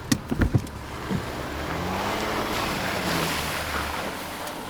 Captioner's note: car engine starting; driving away